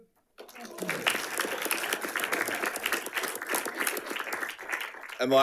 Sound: audience applauding

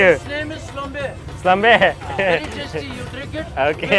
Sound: speaking in foreign language

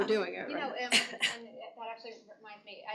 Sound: laughter

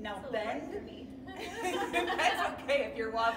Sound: laughing

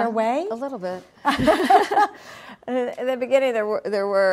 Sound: laughs

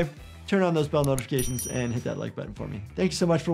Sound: mouse clicks; bell dings

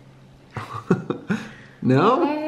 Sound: laughs

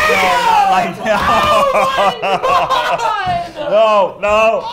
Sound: laughing

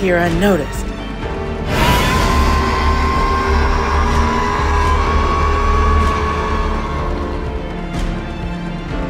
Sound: Scorpius roaring

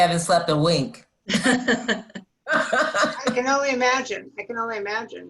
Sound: laughter

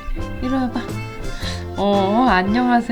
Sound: laugh

